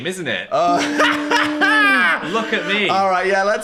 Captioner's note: Dan laughs